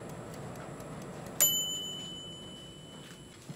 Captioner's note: ting